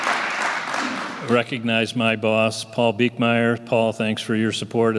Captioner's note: applause